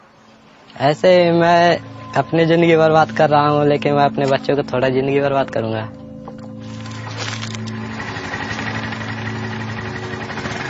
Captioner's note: foreign language